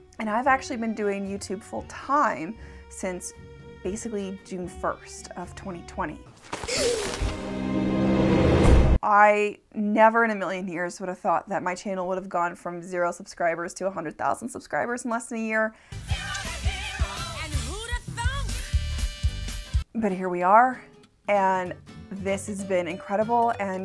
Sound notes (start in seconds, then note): 6.6 child gasping; 8.3 dramatic thud